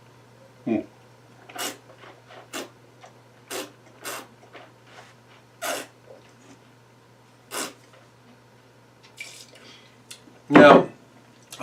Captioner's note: slurping